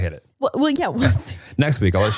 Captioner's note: laughing